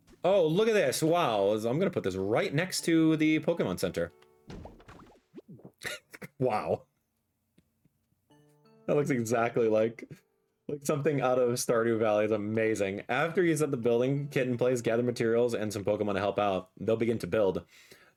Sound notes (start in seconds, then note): 5.8 laughs